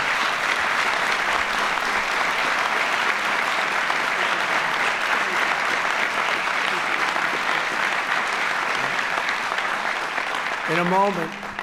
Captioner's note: applause